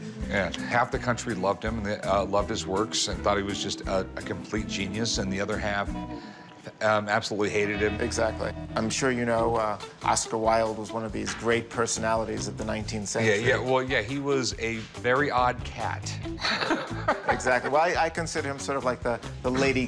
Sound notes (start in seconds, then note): 16.3 laughs